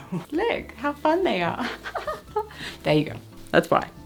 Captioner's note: laughs